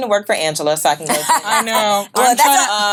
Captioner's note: laughs